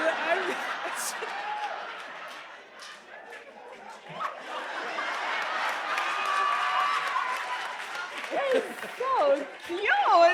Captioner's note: laughter